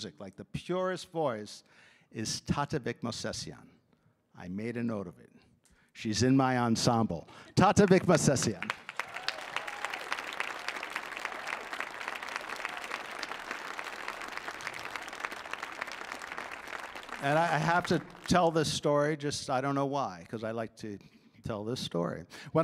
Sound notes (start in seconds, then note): 9.0 audience applauding